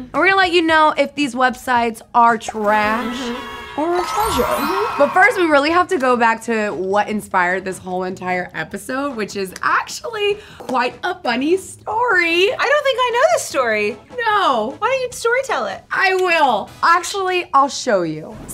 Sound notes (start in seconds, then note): 2.7 children cheering; 4.6 twinkling